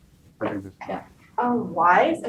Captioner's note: speaking softly